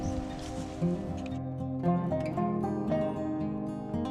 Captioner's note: birds chirping